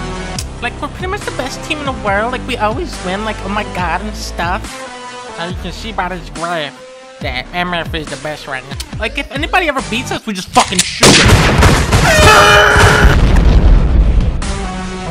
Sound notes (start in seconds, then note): 10.8 gunshots; 12.0 yelling